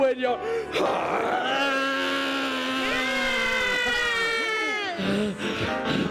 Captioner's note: screaming and cheering